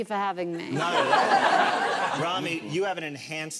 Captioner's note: audience laughs